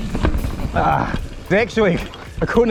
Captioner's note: groans